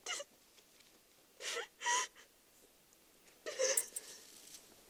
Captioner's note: Clytemnestra sobs